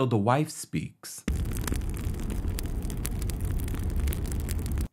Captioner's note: fire crackles